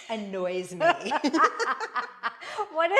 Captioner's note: both laughing